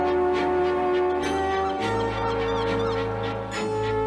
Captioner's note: seagulls crying